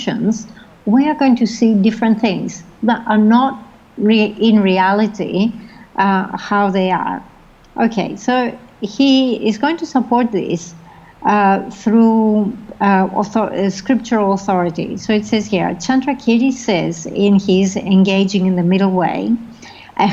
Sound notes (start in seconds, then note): 16.0 foreign language